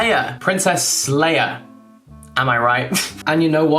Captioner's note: giggling